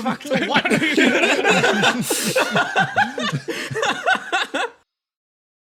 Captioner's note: laughs